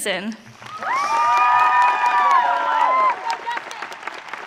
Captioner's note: audience cheering